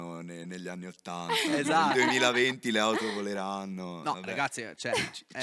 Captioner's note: laughing